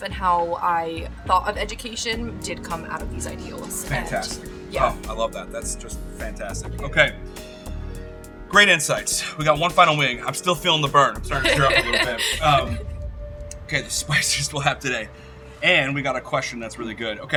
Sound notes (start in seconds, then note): 11.3 laughing